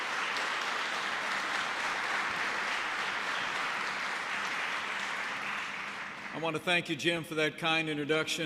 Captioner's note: applause